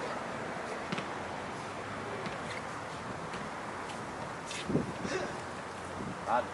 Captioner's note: basket ball tapping; leaves rustling